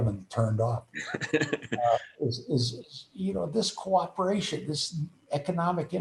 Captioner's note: laughter